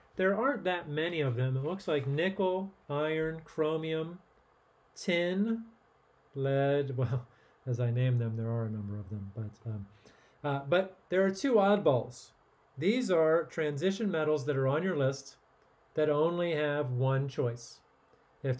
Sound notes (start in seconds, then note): 6.9 chuckling